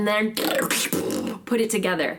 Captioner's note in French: beatbox